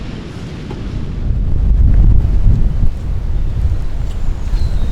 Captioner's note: wind